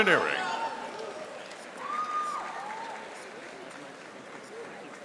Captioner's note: audience applauding